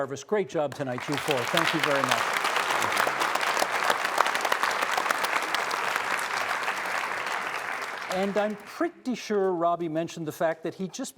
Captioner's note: applause